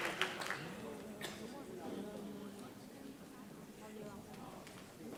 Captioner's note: audience chattering